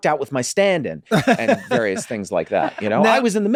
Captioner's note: Charlie laughs